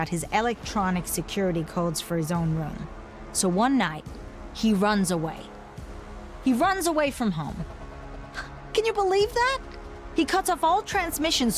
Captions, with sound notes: his electronic security codes for his own room. So one night, he runs away, he runs away from home. (scoffs) Can you believe that? He cuts off all transmissions,